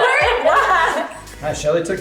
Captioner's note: laughing